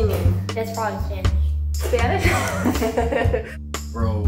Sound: laughs

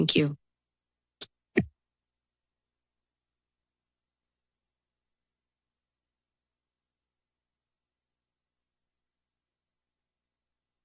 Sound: silence

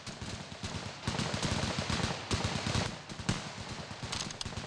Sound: rapid, continuous gunfire

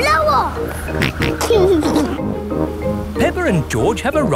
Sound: snorts and giggles

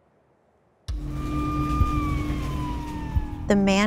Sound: sirens whirring

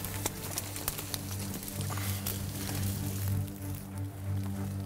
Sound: rustling in the foliage; upbeat orchestral music

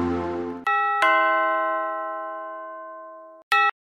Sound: ding Dong

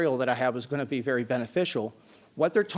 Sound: none

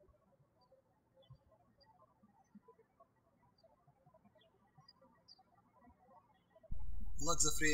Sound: birds chirping

